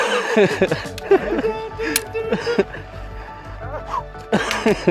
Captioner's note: cameraman laughing